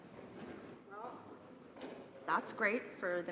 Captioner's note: none